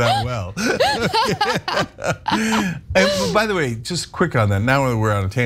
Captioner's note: laugh